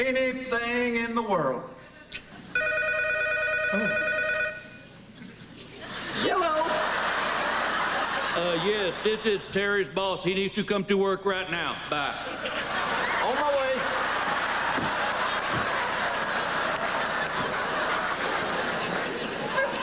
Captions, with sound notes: FOR ANYTHING IN THE WORLD. [TELEPHONE RINGS] OH. YELLO! UH, YES, THIS IS TERRY'S BOSS. HE NEEDS TO COME TO WORK RIGHT NOW. BYE. ON MY WAY.